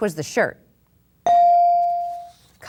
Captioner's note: bell dings